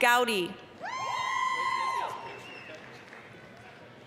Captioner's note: applause, cheering